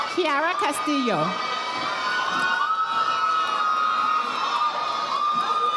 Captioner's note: audience applauding